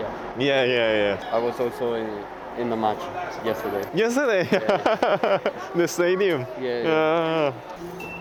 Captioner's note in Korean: 웃음